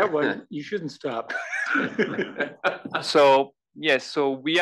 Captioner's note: laugh